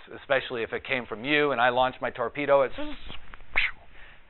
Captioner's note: imitates launching torpedo